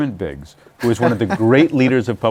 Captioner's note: laughs